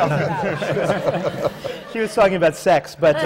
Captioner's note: laughter